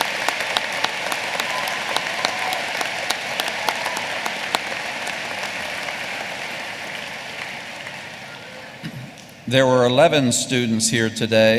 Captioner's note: applause